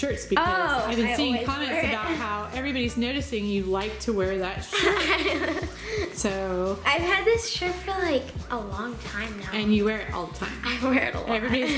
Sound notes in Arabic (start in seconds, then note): 4.7 يضحك